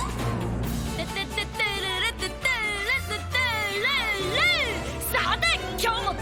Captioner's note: Chup humming theme song